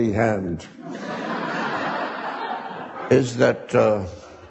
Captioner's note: audience laughing